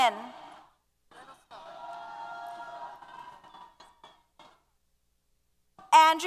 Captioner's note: applause & Cheers